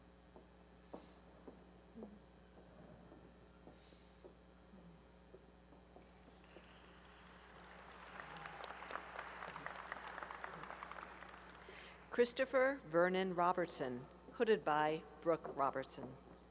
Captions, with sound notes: [applause] Christopher Vernon Robertson, hooded by Brooke Robertson.